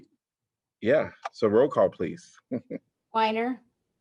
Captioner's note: laughter